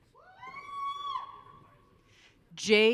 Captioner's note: audience cheering